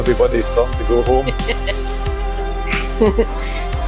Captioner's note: laughter